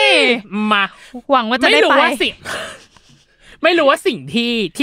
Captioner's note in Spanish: Risas